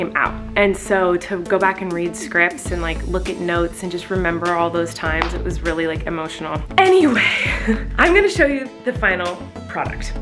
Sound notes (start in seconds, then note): 7.0 laughing